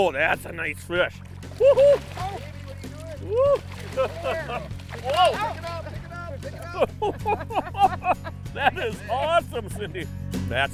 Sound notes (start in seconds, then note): 1.8 laughing; 6.6 laughing